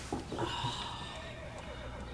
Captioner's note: groaning; horse neighing